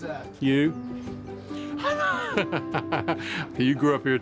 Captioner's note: laughing